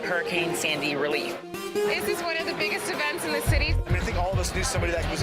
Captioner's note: crowd chatter